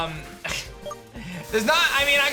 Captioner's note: chuckles